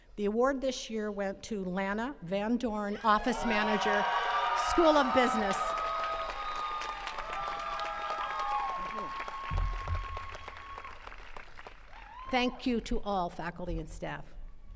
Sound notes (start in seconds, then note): 3.8 attendees cheering; 6.2 attendees cheering and clapping